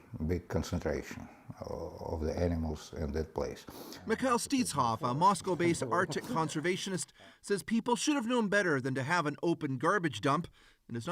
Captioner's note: speaking russian